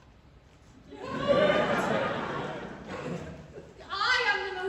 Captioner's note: laughter